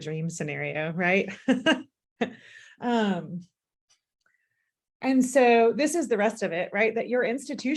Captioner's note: laughter